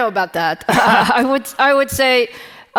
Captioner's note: laughing